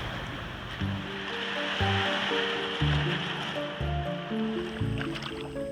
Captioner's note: water splashing; gentle music; water trickling